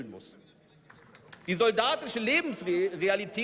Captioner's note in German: Beifall